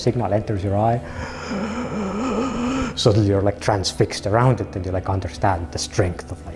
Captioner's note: gasps